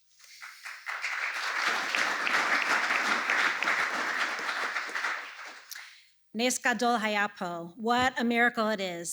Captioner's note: applause; speaks Hebrew